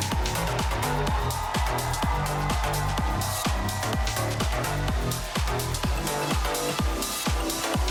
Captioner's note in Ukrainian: оплески